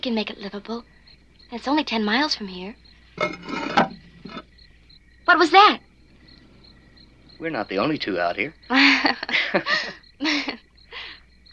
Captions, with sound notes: We can make it livable, and it's only 10 miles from here. (scraping) What was that? We're not the only two out here. (giggling)